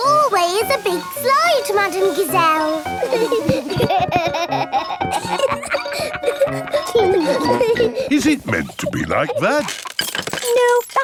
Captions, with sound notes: Your hallway is a big slide, Madame Gazelle! (GIGGLING) Is it meant to be like that?